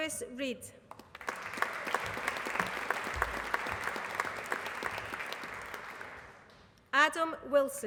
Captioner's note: applause